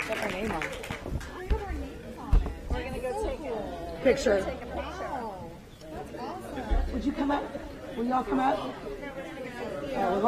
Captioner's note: applause